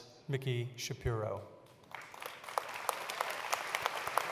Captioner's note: applause